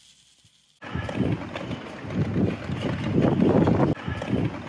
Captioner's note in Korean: 심상치 않은 바람소리